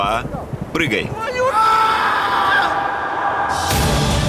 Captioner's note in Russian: крик